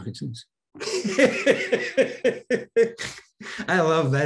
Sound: Denis laughing

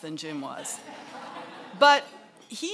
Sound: laughing

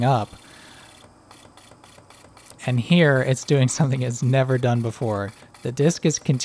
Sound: noise starts cutting in and out

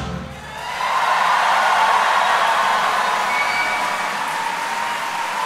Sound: audience cheer and applaud

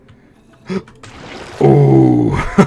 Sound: gasp

